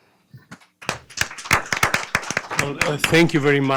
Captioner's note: audience applause